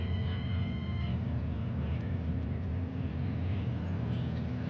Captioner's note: people chattering